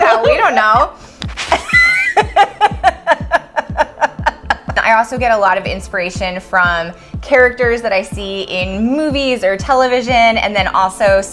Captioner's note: laughs